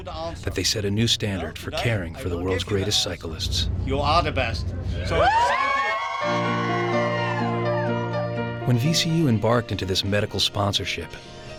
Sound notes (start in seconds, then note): 5.0 cheering; 8.6 voiceover